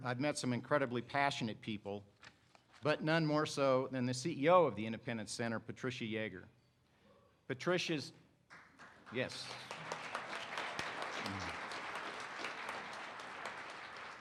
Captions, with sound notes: I've met some incredibly passionate people, but none more so than the CEO of the Independence Center, Patricia Yeager. Patricia's, yes. (participants applaud)